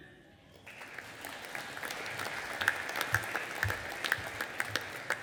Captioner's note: audience applauding